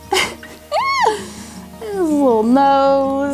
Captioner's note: laughs